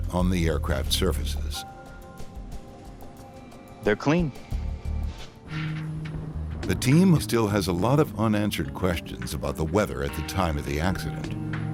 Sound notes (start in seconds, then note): 5.4 humming; 11.5 sinister music